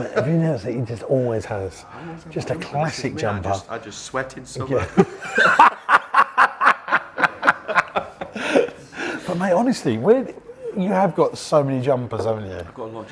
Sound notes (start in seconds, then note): 0.0 laughs; 4.9 both laughing